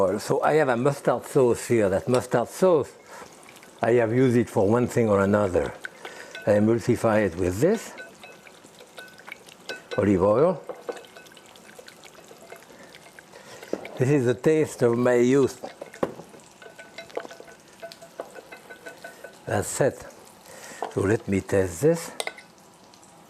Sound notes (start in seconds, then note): 18.0 glass clinking softly